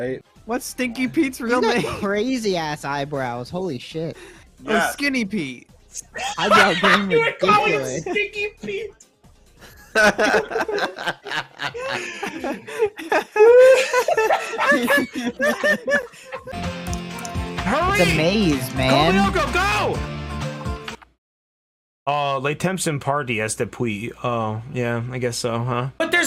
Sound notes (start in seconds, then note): 6.2 immediate howling laughter; 9.7 a background of increasingly louder laughter